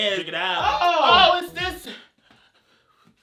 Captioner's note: yelling